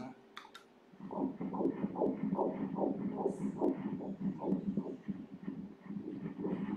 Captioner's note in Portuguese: batimentos cardíacos